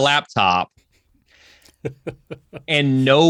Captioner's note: laughs